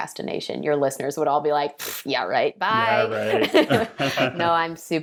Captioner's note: laughing